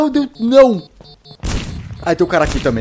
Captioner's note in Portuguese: tiro